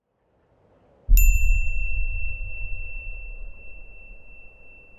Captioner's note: bell chimes